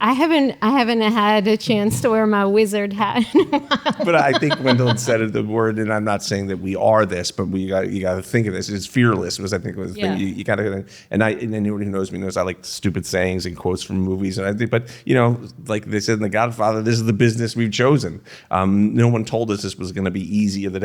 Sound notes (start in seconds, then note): 10.4 stammering